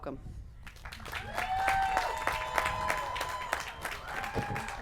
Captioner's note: applause